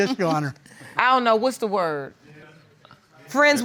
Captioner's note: crowd chuckling